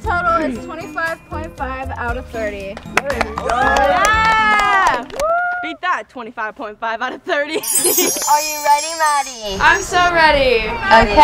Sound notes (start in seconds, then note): 3.2 cheering; 7.5 bells chiming